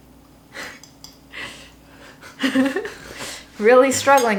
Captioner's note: chuckles